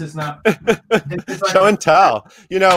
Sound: laughs

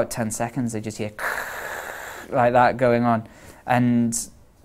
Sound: white noise

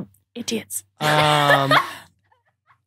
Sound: blurts laugh

